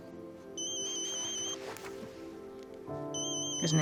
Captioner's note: phone